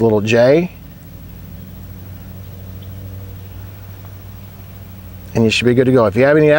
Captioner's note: nature sounds